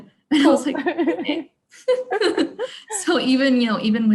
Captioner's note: laughing